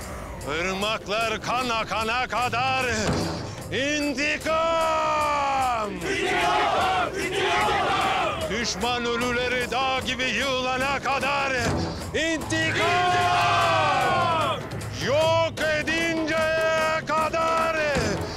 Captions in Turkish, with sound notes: Irmaklar kan akana kadar... ...intikam! (Hep bir ağızdan) İntikam, intikam! Düşman ölüleri dağ gibi yığılana kadar... ...intikam! -(Hep bir ağızdan) İntikam! Yok edinceye kadar...